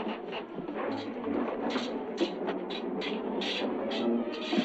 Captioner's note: swords clashing